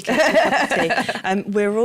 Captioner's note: laughter